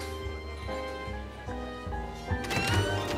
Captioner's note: soft chatter